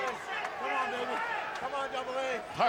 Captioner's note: crowd clamoring